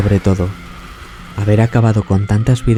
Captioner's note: shout